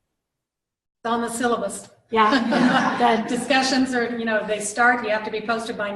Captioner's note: laughter